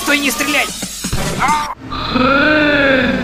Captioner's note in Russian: выстрел